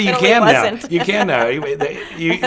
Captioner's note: laughing